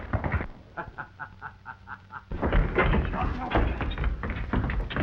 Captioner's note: Jim laughing